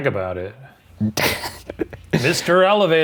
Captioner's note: laughs